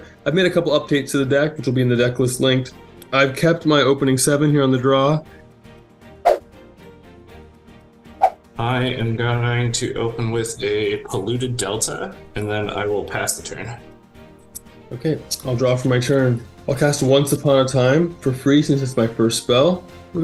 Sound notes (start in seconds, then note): 6.2 swooshing; 6.3 upbeat music